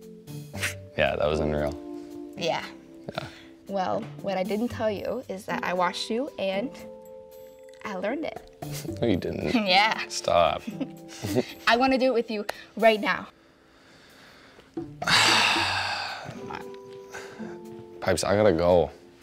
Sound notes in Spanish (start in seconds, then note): 10.6 Ambos ríen; 14.9 James suspira